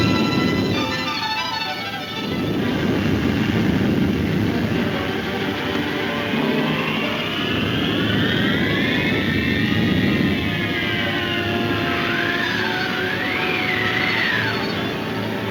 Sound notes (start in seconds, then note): 7.3 wind whooshing